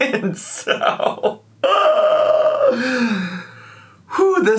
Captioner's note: laughs